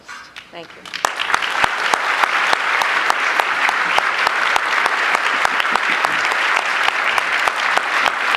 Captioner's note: applause